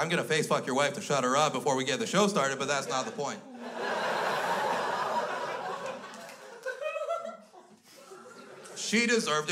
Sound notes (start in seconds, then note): 2.7 crowd laughs